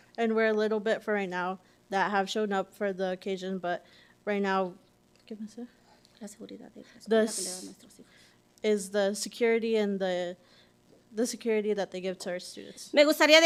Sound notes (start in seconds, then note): 4.6 whispers in Spanish; 6.6 whispering in Spanish